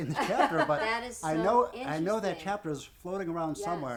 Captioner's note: laughing